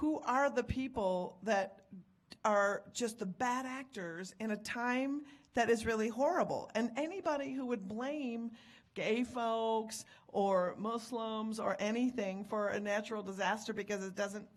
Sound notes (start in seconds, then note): none